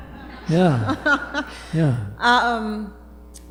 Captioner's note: laughter